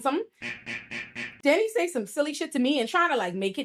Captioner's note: buzzer